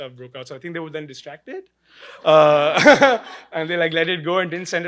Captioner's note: laughing